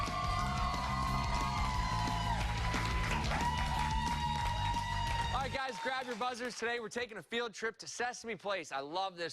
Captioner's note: cheers and applause